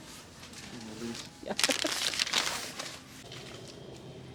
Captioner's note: laughs